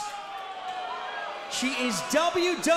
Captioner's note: crowd cheering